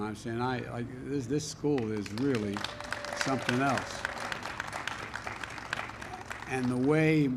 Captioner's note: applause